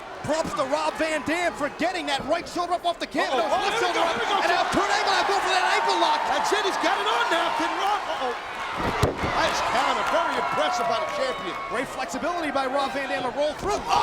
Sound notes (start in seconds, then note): 4.4 crowd cheering; 8.7 mat thumping